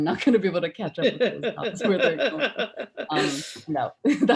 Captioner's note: mumbling